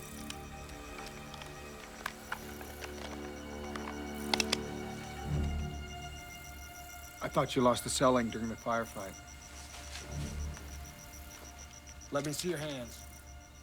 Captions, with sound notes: [ Hammer Cocks ] I THOUGHT YOU LOST THE CEL-LINK DURING THE FIREFIGHT. LET ME SEE YOUR HANDS.